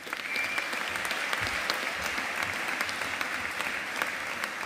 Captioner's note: audience applauding